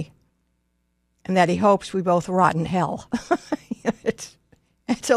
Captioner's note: laughs